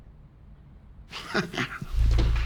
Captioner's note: nervous laughter